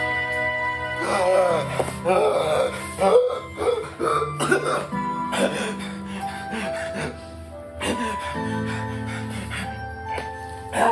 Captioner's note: gasping for air